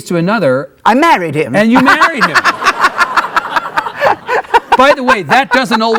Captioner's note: laughing